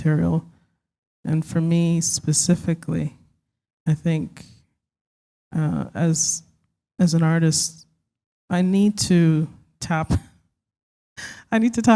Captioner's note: chuckle